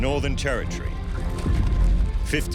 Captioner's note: horses galloping